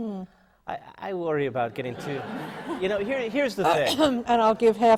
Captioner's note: laughter